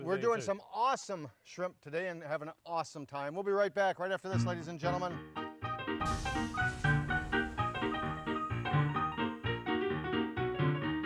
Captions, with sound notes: - We're doin' some Awesome Shrimp today, and havin' an awesome time. We'll be right back right after this, ladies and gentlemen. (grill sizzles) (upbeat piano music)